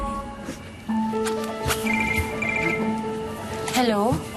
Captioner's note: bright music playing; phone ringing